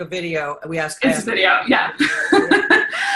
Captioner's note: chuckling